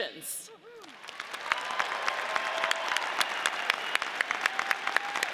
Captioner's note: audience cheers